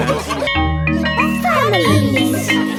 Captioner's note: school bell ringing